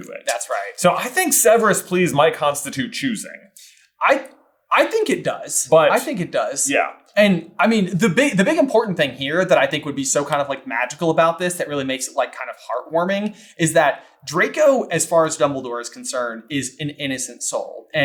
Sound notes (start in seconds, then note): none